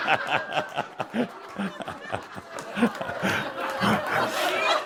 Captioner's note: much laughter